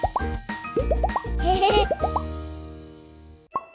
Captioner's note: laughter